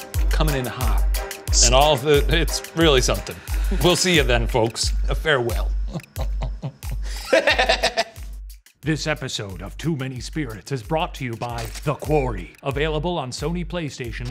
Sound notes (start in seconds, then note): 5.7 laughing